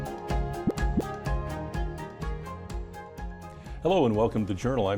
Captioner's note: graphic pops